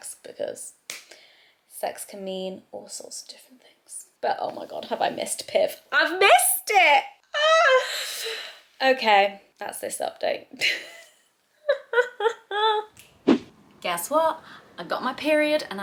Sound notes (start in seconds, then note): 11.6 laughs; 13.0 transition swishes